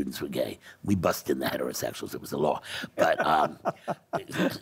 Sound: laughing

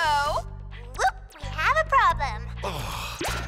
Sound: sighs

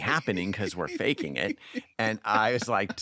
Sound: laughing

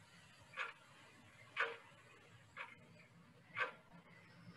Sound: clock ticking

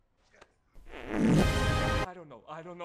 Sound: implosion of flatulence

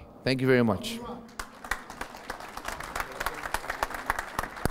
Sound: applause

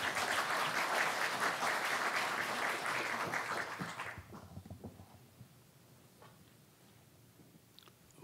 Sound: applause

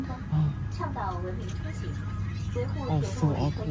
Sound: radio voice: Promote civilized travel

